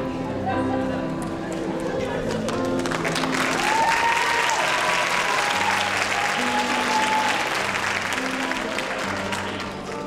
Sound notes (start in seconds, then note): 3.2 cheering